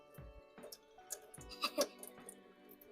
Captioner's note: laughs